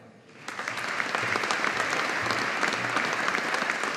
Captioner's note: audience applauding